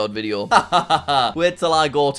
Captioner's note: laughing